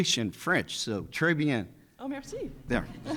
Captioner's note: speaking in foreign language; people chuckling; chuckles